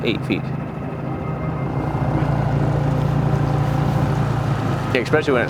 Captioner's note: suspenseful music; motor revving